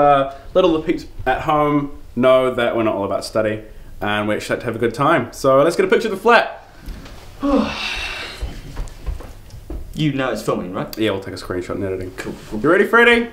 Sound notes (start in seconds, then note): 7.4 sighs